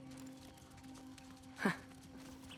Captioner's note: laugh